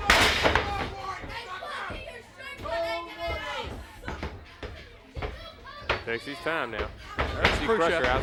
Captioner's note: crowd chatter